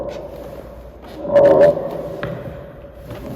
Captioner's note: none